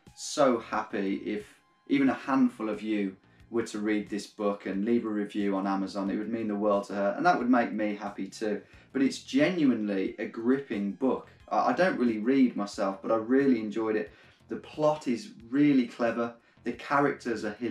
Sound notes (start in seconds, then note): none